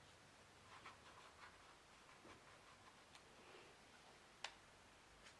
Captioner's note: paintbrush scratching